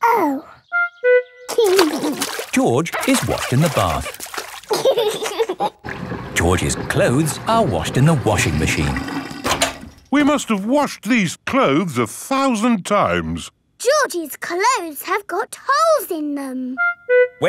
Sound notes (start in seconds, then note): 4.6 giggling